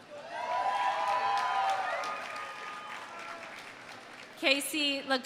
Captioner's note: audience cheering; audience applauding